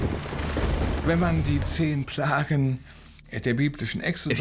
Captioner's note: speaking German